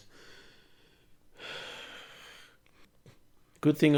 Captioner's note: sighs